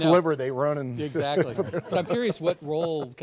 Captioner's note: laughs